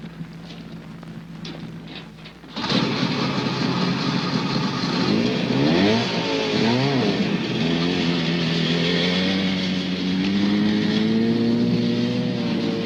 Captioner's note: snowmachine engine